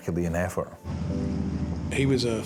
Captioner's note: lifeboat engine whirring